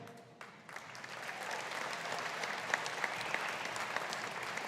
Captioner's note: audience applauding